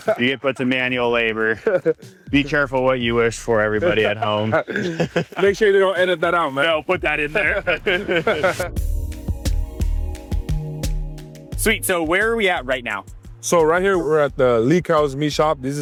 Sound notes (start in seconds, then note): 7.1 all laughing; 8.9 upbeat music